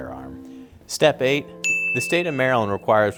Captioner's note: dinging